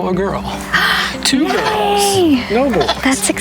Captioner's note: gasps